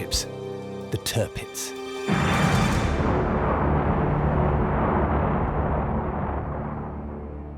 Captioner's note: explosions